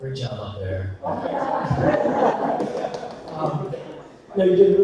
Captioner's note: audience laughter